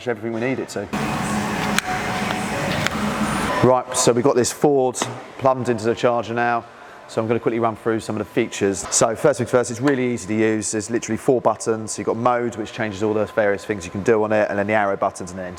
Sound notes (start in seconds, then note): 0.9 machine whirrs